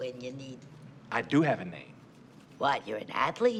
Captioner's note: none